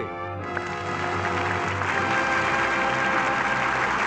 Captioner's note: audience applauding